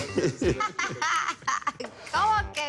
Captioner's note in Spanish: Risas